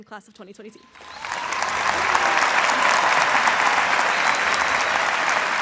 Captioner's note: audience applauding